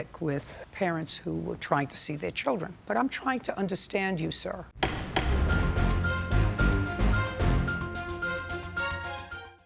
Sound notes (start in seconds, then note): 4.8 gavel banging; 4.8 intense dramatic music